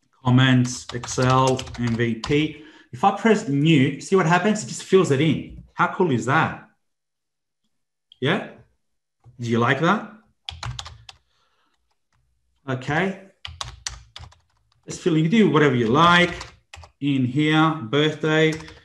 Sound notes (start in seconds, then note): 10.4 computer keyboard keys tapping; 13.4 computer keyboard keys tapping